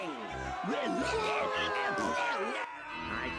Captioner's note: audience booing